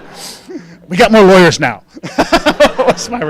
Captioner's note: laughing